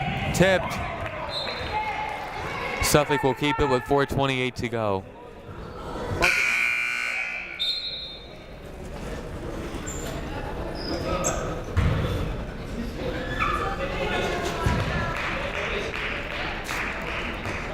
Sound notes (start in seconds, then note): 1.3 whistle blows; 6.2 buzzer blares; 6.2 whistle blows; 14.8 clapping